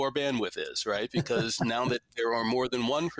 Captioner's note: laughs gently